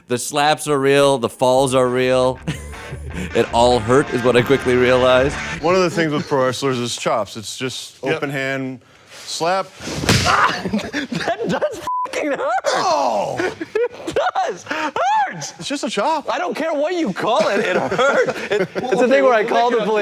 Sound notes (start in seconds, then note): 5.2 funky music; 9.9 slapping; 17.4 laughing